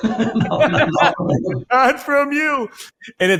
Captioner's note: laughs